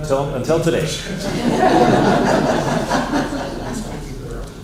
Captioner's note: laughter